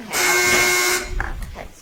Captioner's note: timer buzzes